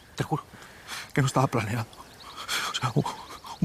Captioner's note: stammering